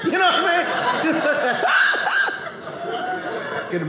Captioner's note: audience laughing